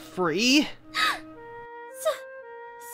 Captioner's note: gasp